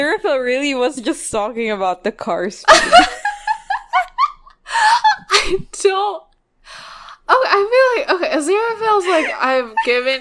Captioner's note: both laughing